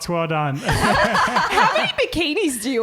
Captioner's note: laughing